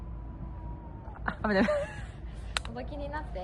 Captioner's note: laughs